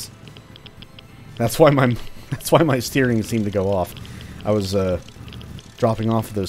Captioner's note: chuckles